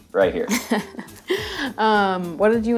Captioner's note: giggling